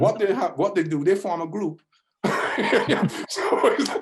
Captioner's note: laughs